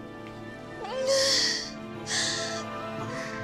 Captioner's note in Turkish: İnliyor; Duygusal müzik